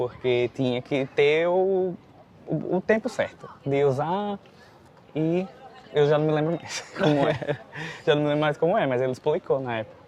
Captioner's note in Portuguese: risadas